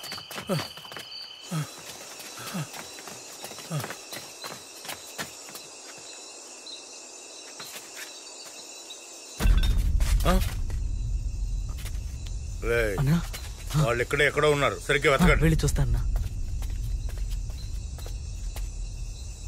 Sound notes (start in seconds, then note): 9.3 bottle clatters